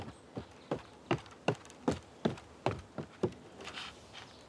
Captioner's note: footsteps thumping